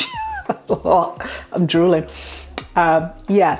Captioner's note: laugh